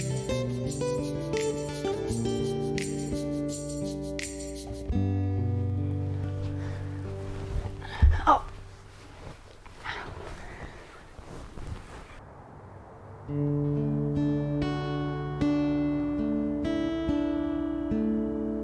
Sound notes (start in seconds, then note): 7.9 Harmony moans; 13.1 gentle music continues